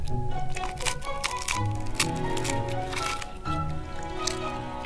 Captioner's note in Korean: 바스러지는 소리